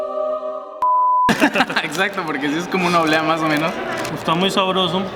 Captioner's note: both laugh